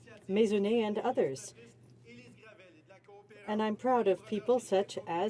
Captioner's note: speaking French